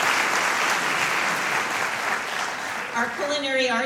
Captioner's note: applause